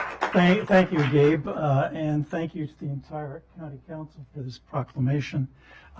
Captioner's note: applause